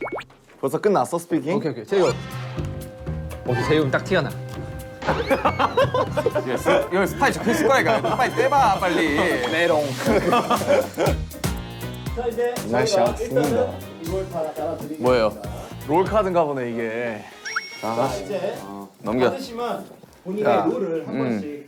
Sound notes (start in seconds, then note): 17.3 twinkling